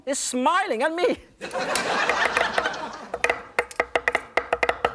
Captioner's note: laughter